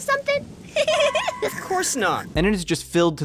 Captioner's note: laughs